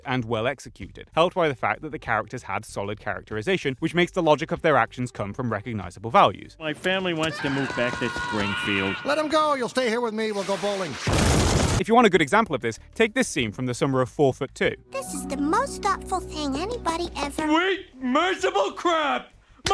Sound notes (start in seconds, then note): 10.4 explosion